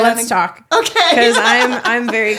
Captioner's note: laughs